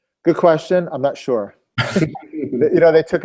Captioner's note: laugh